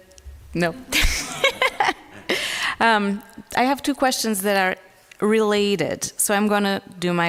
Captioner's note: laughs